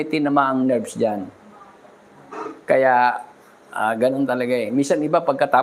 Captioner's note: clears throat